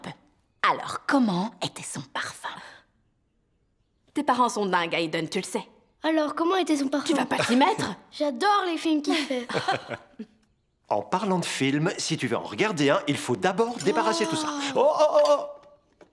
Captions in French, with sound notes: Quelle était son odeur ? Tes parents sont fous, tu le sais, Hayden ? Mais qu'est-ce qu'il sentait ? Pas toi non plus. Il a les meilleurs films. En parlant de ça, pas de film ce soir si on ne fait pas la vaisselle. (gémissement, simulacre de gémissement)